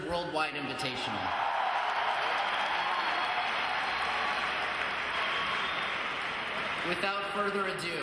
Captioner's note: applause